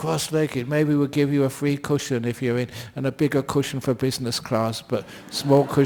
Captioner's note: laughter